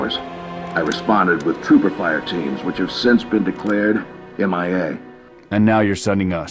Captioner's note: radio